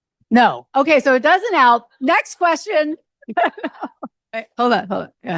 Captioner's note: laughs